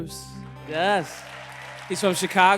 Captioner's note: applause and cheers